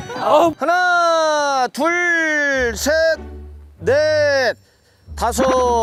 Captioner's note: taking breaths to relax